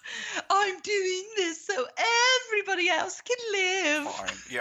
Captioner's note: nasally